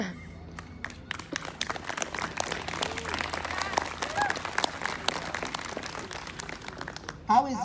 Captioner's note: applause